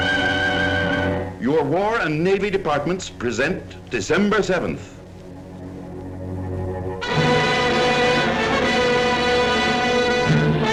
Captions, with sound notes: - [Voiceover] Your War and Navy Departments present, December 7th. (intense orchestral music)